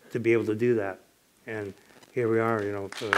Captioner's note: applause